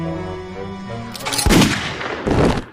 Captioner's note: creepy music; gunshot